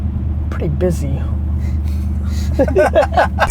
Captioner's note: group laughter